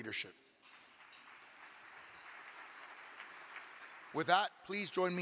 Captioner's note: audience clapping